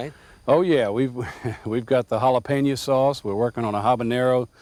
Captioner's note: chuckles